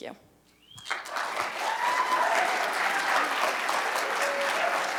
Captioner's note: cheers and applause